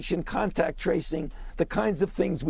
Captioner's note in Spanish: hablado en inglés